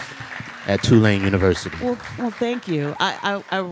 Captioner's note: audience applauding